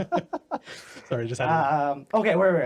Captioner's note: laughing